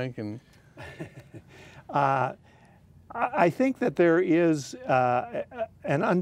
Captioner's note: chuckling